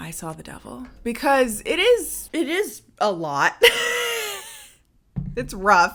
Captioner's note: laughs